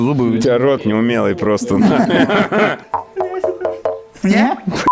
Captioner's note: sarcasm